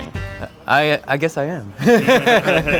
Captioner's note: laughs